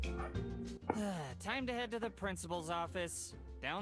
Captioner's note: вздох